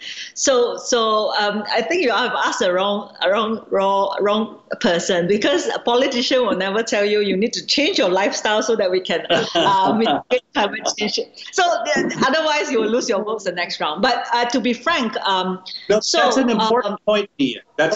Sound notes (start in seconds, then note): 9.2 laughs